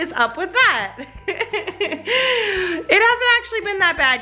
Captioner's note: laughs